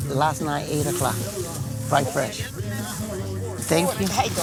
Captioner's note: customers chatting